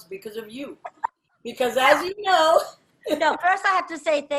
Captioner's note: laughs